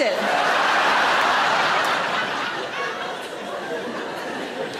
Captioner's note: audience laughs